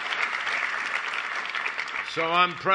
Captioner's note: applause